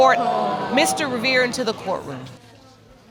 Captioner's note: audience exclaims